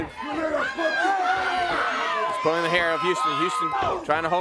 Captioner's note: crowd cheering